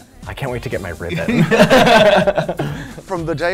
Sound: laughing

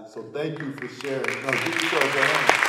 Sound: audience clapping

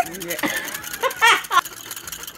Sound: cackles

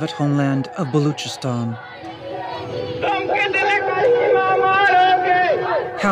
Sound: Chanting in Urdu: Tum kitne Karima marogeh?

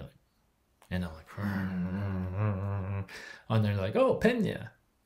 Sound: whirs mouth

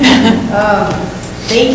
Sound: laughing

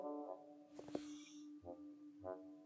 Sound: sigh!

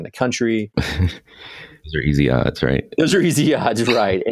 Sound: laughs

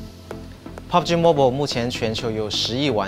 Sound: non-english speech

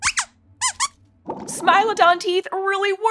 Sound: squeaks squeaks

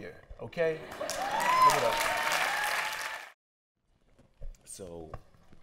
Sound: cheers and applause

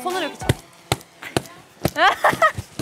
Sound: punching

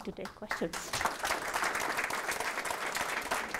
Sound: applause

